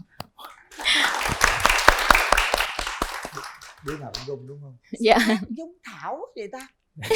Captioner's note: applause